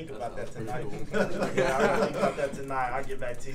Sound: laugh

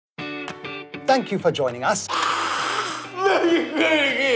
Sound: shrieks

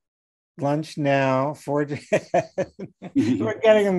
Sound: laughing

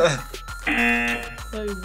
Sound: laughs; buzzer

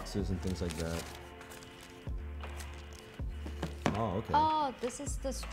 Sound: paper crinkling

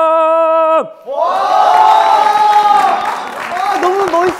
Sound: clapping

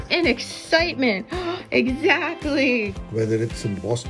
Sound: gasps

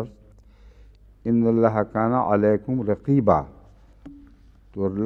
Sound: Arabic

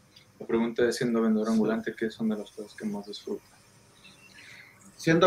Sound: speaking in foreign language

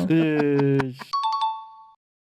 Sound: laughter

